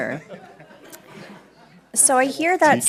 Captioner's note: laughing